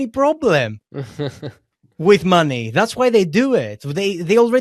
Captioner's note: laughs